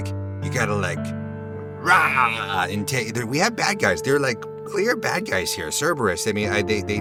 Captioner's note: growls